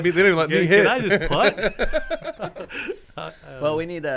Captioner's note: men laughing